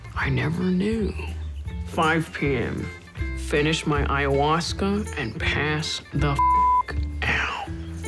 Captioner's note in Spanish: bip